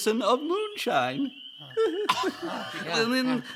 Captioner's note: giggling